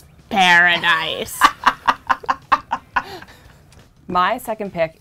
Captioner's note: laughing